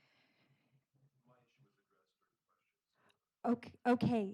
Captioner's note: speaking faintly